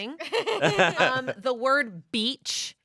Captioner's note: everyone laughs